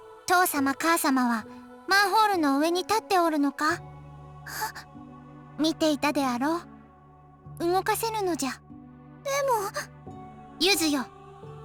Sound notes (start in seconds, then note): 4.5 gasp